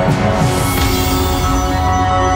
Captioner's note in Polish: uderzenie